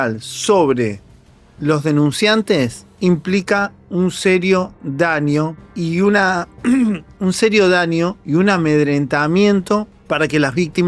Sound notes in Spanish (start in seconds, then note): 6.6 carraspeo